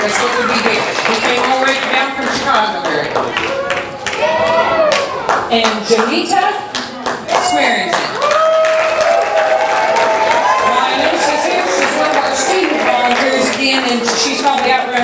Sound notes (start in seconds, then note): 3.4 audience applause